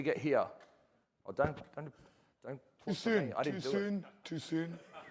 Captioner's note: laughter